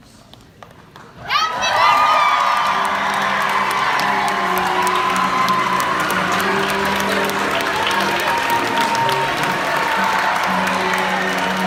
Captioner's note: clapping and cheering